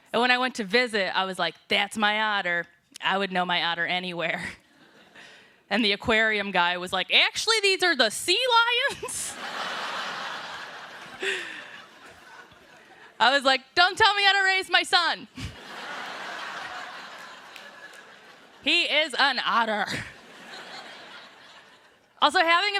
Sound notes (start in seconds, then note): 12.3 laughter